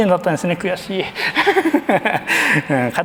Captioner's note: laughs